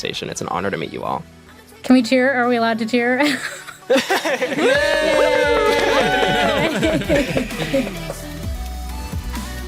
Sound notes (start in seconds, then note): 3.2 laughter; 4.5 all cheering